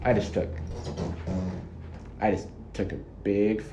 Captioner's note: farts